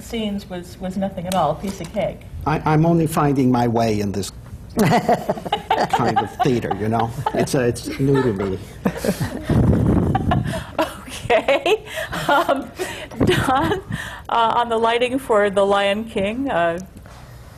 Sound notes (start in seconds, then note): 6.4 laughter; 9.6 laughs